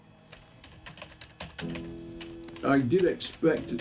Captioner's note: keyboard clacking